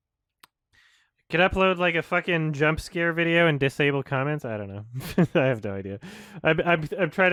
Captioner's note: chuckles